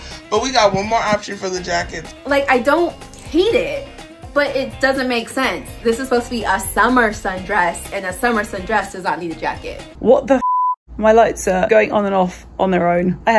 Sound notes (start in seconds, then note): 10.4 beep